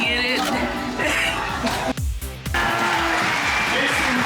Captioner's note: laughs